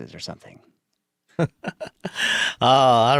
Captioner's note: laughs